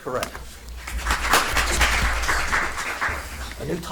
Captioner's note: audience applauds